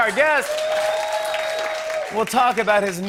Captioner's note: cheers and applause